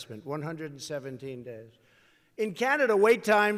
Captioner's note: none